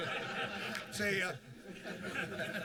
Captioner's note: laughter